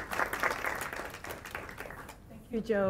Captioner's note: applause